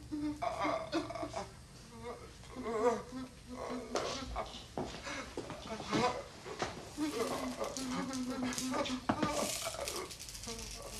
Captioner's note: groaning